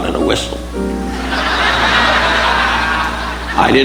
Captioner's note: audience laughing